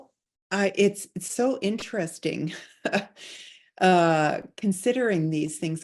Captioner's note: chuckling